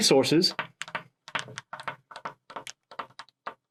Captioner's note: pen tapping